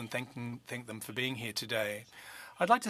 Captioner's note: speaking French